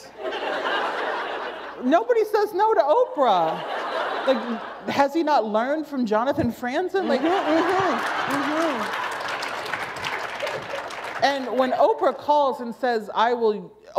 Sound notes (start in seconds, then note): 0.1 laughter; 3.6 laughter; 7.4 applause